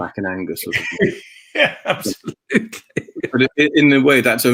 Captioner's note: laughs